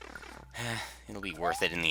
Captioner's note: sigh